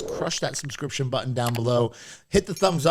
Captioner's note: clicking